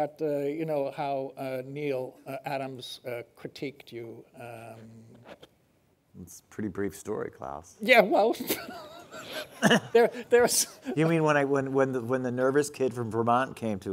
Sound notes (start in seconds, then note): 8.4 laughing